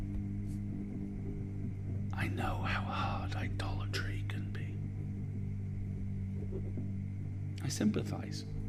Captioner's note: whispers